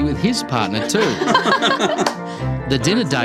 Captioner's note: both laugh